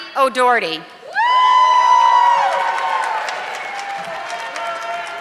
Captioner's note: audience clapping